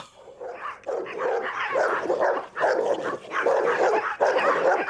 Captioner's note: dogs barking